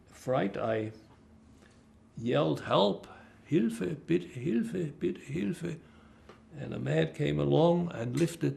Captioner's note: german